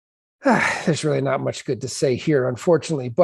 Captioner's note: sighs